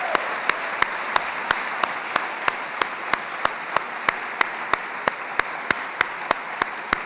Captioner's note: applause